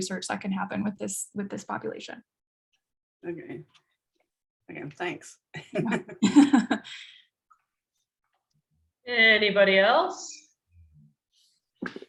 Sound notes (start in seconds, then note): 5.7 chuckling